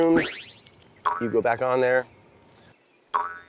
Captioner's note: boinging